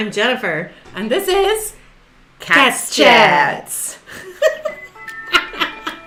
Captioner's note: bright music; laughs